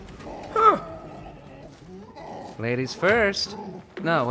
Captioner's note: Gloink Queen groaning